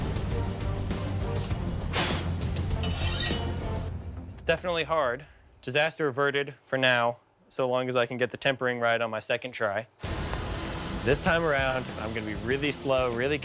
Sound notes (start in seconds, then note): 1.8 blowing; 1.9 blade scraping